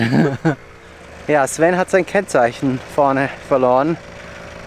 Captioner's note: laughs